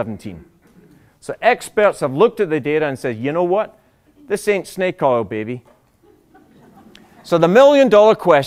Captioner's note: laughter